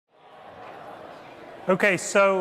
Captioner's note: students talking in background